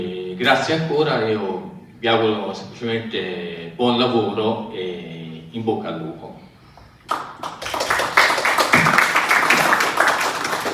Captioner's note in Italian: Applauso